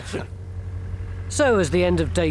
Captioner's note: laugh; excavator engine revs